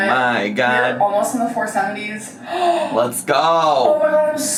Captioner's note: gasps